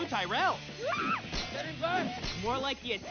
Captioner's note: screams